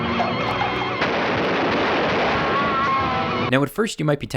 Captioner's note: gun shooting